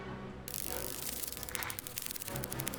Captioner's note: hissing sound